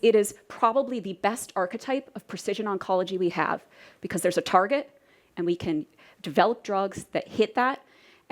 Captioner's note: none